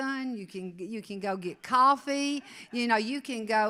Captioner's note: audience laughs